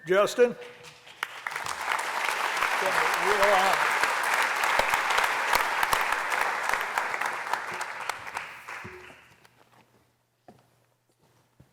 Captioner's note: applause